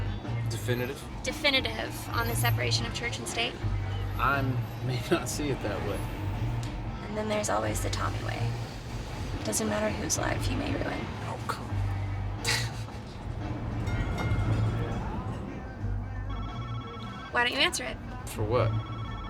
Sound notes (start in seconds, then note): 13.6 phone ringing